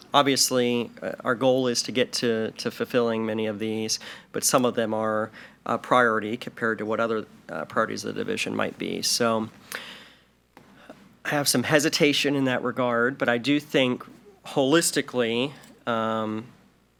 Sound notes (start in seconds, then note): none